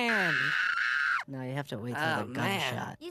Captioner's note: screams